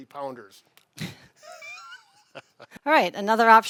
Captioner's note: both laughing